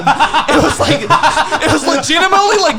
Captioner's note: laughing